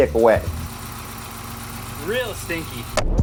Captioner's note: car engine growling